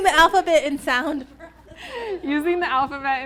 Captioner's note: audience laughs